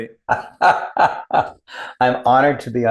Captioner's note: laughs